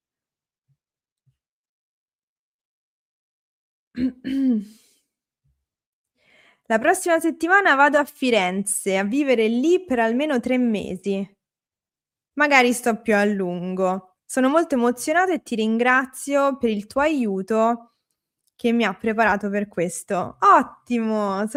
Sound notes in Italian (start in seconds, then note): 0.6 schiarire la voce; 0.6 tosse